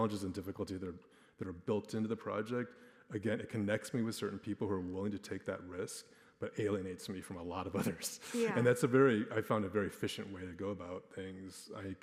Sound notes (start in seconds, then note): 7.7 chuckles